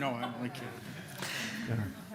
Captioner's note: laughter